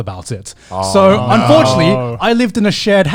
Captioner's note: hosts groaning